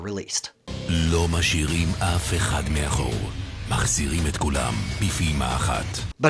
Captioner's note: speaking in a foreign language